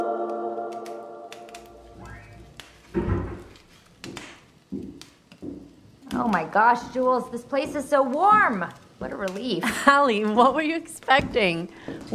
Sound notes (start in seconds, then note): 0.2 fireplace crackling; 2.8 door shut; 3.8 footsteps entering